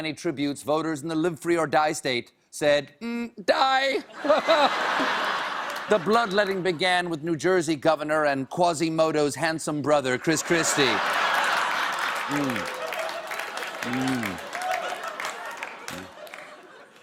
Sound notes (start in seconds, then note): 4.0 laughter; 10.3 laughter; 10.7 applause